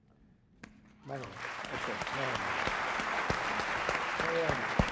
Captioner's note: applause